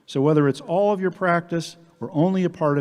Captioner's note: none